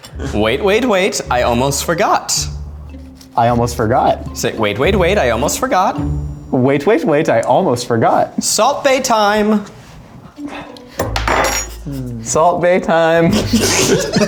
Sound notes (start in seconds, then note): 11.0 spoon clanks